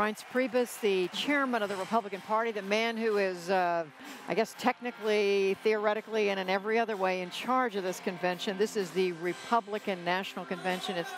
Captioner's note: cheers and applause